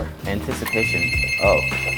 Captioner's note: phone rings